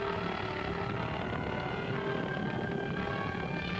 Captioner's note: motor rumbling